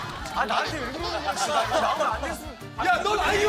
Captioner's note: frustrated